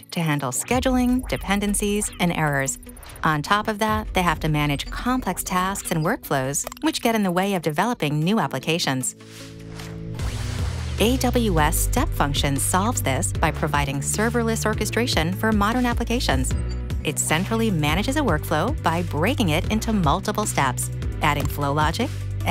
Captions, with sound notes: to handle scheduling, dependencies, and errors. On top of that, they have to manage complex tasks and workflows, which get in the way of developing new applications. (screen whooshes) (upbeat music) AWS Step Functions solves this by providing serverless orchestration for modern applications. It centrally manages a workflow by breaking it into multiple steps, adding flow logic,